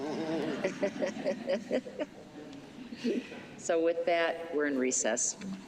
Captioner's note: laughter